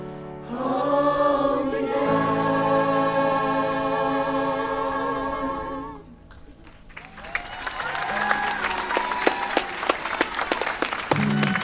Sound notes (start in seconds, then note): 6.6 audience applauding